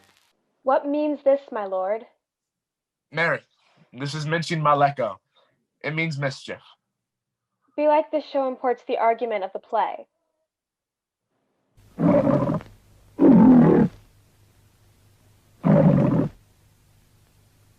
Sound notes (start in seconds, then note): 11.9 lion roaring